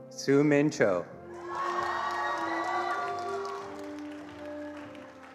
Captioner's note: attendees applauding